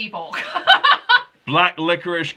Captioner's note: laughing